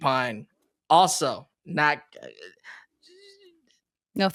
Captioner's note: whimpers